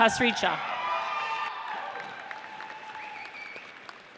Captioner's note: audience cheers